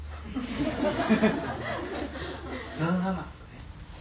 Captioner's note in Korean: 청중 웃음